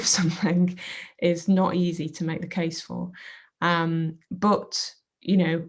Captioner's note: chuckles